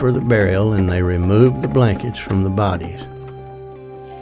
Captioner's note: wagon clatters